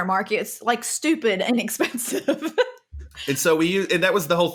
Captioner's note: laughs